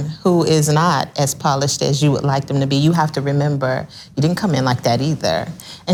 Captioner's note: none